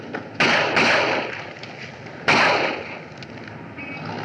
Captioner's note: gunfire Continues